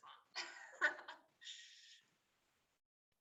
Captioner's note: laughs